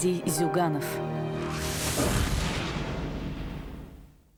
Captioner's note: hit